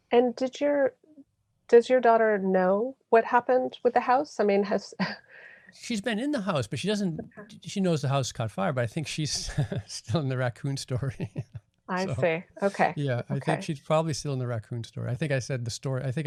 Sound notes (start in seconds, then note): 11.3 laughing